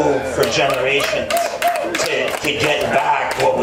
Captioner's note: cheering